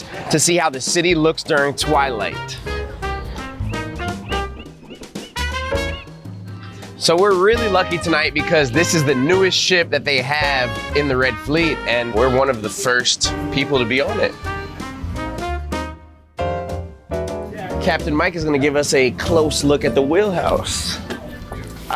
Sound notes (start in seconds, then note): 2.8 seagulls squawking